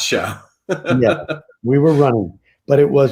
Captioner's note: laughs